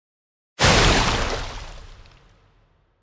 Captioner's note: splash